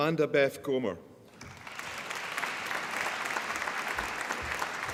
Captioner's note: applause